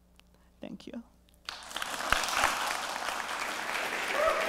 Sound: applause

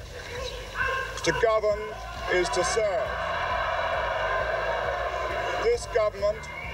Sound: audience cheering

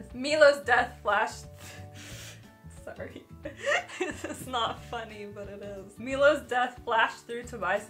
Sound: laughing

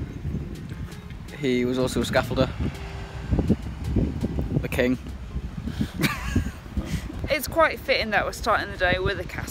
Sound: laughs

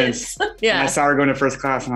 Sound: laughing

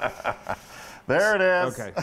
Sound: laugh

